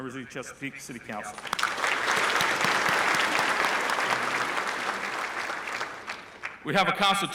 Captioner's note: applause